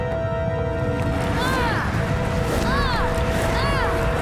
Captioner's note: grunting, rumbling